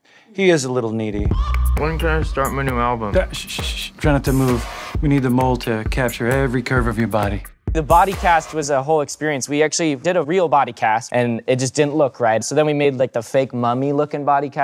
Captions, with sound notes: He is a little needy. -When can I start my new album? -(SHUSHES) Try not to move. We need the mold to capture every curve of your body. The body cast was a whole experience. We actually did a real body cast, and it just didn't look right. So then, we made the fake, mummy looking body cast,